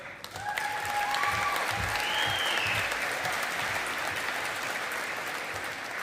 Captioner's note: audience applauding